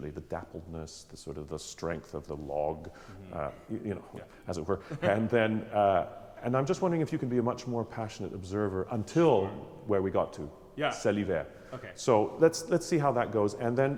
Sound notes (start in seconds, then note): 4.8 laughter; 11.4 speaks French